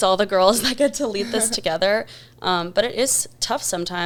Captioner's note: chuckles